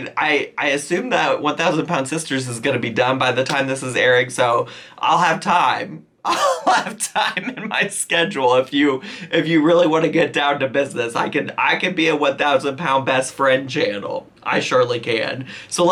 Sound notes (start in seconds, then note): 6.2 laughs